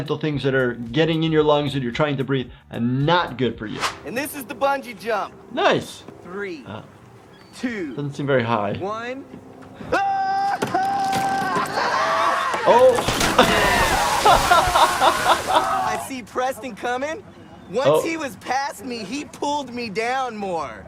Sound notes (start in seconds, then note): 9.8 man shouts; 13.3 laughs